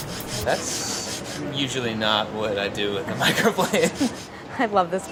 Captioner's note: laughs